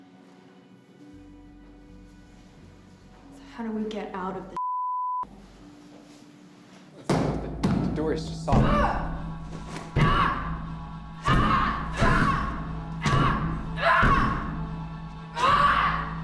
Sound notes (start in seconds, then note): 6.8 loud bang on door; 14.2 yelling